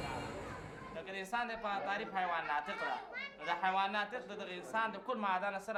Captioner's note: speaks in foreign language